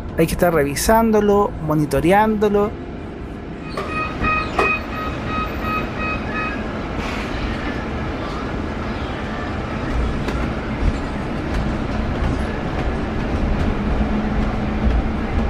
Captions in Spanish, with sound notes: hay que estar revisándolo, monitorándolo, (sonido de cierre de puertas) (sonido de aceleración del bus articulado eléctrico BYD B11 B18C01)